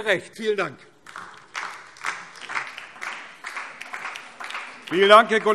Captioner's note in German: Beifall DIE LINKE